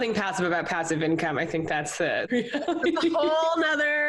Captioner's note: laughs